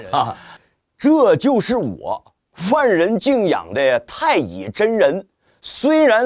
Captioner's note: North East dialect